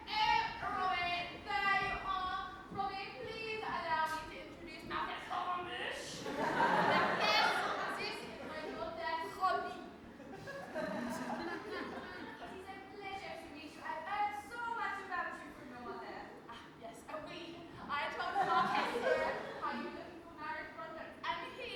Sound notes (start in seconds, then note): 6.1 audience laughs; 7.7 French accent